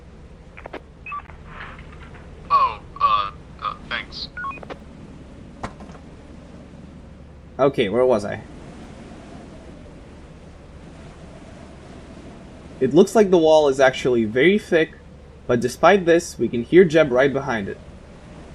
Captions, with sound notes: *Walkie Clicks* *Walkie Beeps* *̶D̴o̶o̸r̵ ̵O̴p̴e̶n̴i̸n̶g̵*̸ O̶h̸.̸ ̶U̶h̶,̵ ̴u̸h̸,̴ ̵t̷h̶a̷n̶k̷s̵.̶ *Walkie Beeps* Okay, where was I? It looks like the wall is actually very thick. But despite this, we can hear Jeb right behind it.